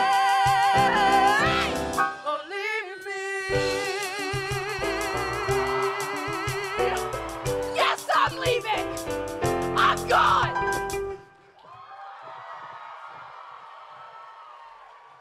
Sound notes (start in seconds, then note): 4.9 crowd cheering; 11.5 applause and cheering